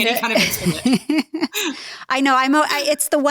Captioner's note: laughing; laughs